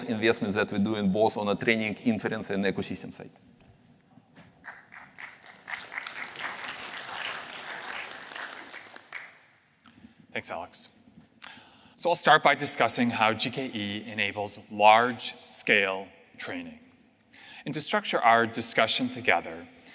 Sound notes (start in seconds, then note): 4.6 applause